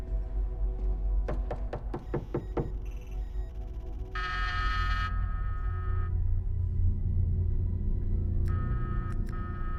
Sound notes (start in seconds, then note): 1.2 knocking on door; 3.9 doorbell buzzing